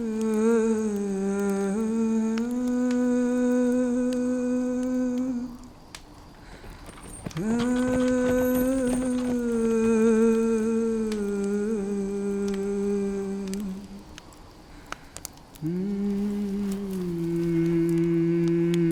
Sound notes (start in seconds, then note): 6.0 distant cart rattles; 10.5 humming continues